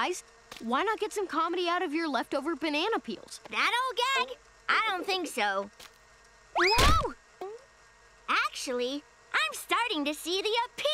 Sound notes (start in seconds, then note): 6.6 thudding